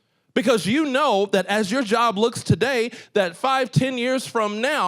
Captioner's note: none